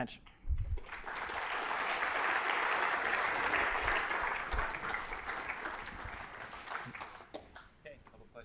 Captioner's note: applause